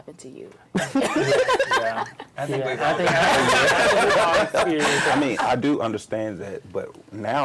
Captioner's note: laughter